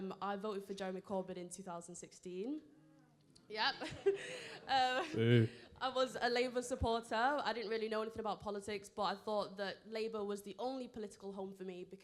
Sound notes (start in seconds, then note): 2.9 audience groaning